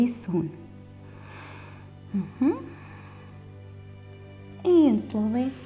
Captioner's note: inhales